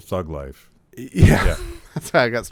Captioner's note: laughs